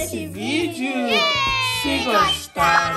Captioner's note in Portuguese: Som de comemoração